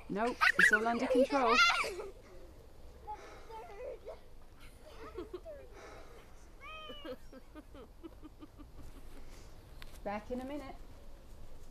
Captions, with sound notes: No it’s all under control. (CHILDREN LAUGH AND CHAT) Back in a minute.